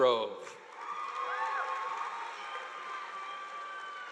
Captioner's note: audience applauding